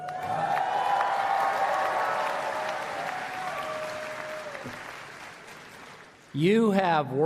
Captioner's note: applause